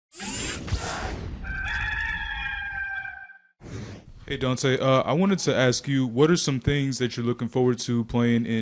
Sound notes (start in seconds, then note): 1.4 rooster crowing